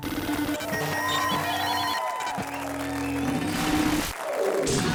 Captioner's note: audience cheering